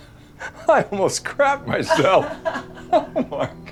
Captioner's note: laughs